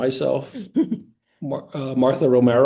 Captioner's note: laughing